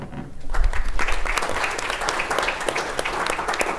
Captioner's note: applause